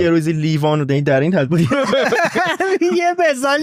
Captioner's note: laughs